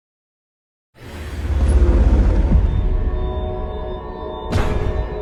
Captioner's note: logo whooshing